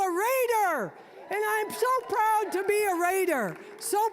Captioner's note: audience cheering